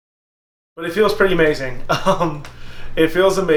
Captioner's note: laughs